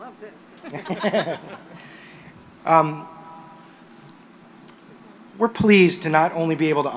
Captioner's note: laughter